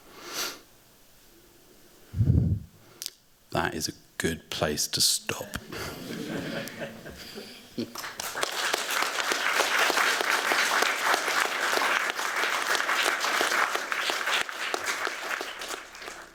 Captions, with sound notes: That is a good place to stop. [APPLAUSE]